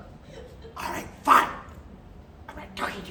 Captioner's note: laughter from Audience; whispering